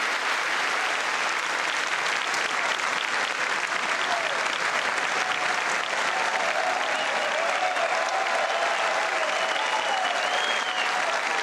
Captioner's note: applause